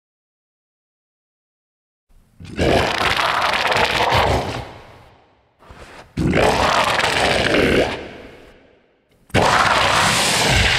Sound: sound of beast

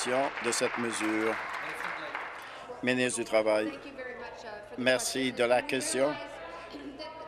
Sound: applause

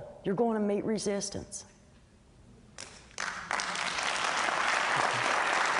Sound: applause

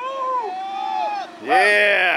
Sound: men shout

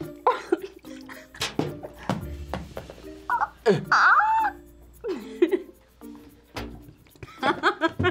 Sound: laughs

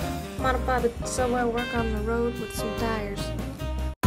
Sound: NYC accent

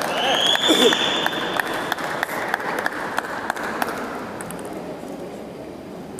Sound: applause

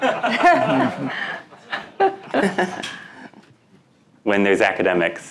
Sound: members laughing

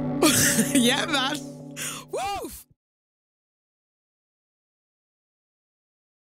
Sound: laughs

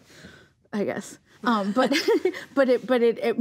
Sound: laughs

